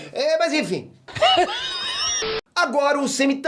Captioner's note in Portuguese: Risada